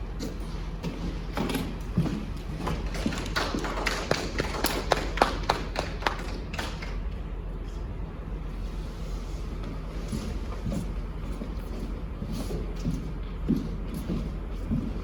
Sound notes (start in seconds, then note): 3.1 footsteps; 3.1 light applause